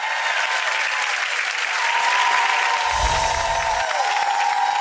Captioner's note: audience applause